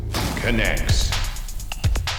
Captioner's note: voiceover; upbeat music